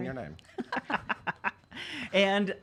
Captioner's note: laughing